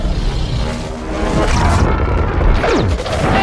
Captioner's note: Godzilla fires atomic breath